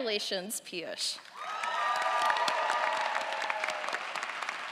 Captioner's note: audience applauds